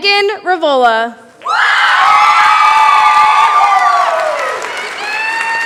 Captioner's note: cheering, applause